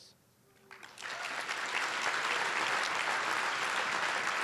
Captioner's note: applause